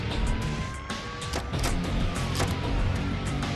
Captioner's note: sirens wailing; gun clicks